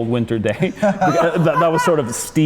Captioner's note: laughter